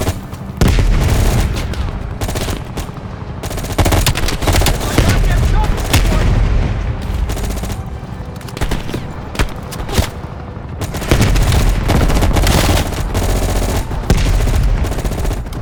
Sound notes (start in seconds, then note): 10.8 gun fires